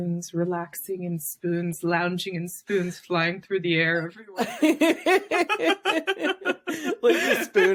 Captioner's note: laughs